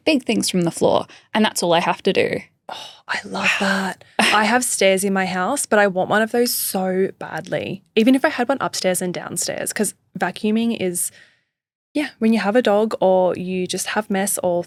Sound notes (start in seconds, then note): 3.6 sighing